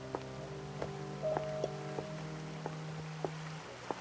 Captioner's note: water flowing